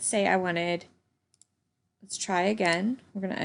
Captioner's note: computer mouse clicking